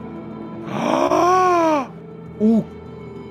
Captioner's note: blows some air